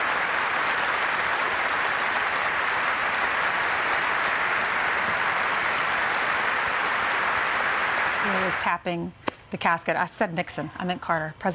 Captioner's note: applause